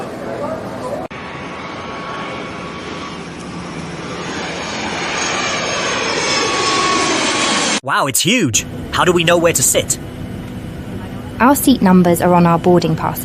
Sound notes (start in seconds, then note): 0.7 plane roaring